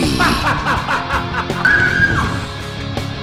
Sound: laughter; screams

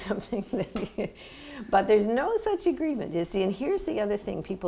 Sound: laughter

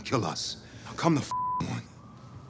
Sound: beep

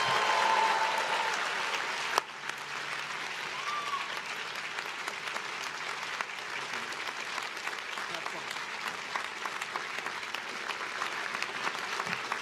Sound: applause

